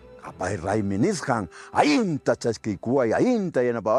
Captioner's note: In Quechua language